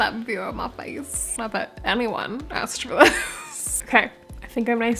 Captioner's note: laugh